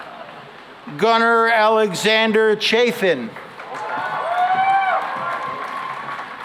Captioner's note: cheering and applause